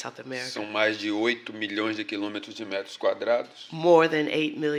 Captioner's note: speaking portuguese